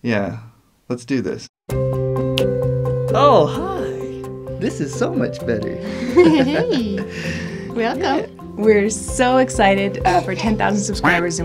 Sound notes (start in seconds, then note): 5.8 laughs